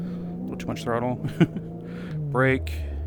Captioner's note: laugh